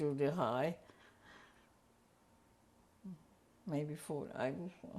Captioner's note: pauses for 3 seconds